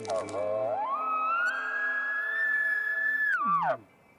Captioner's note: elk bugles